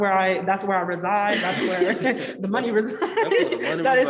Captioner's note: all laugh